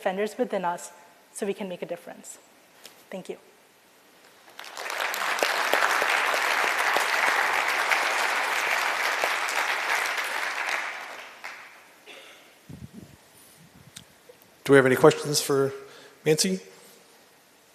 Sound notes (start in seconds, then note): 5.9 applause